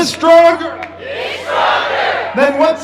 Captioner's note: crowd